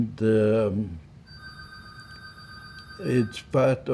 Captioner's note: phone ringing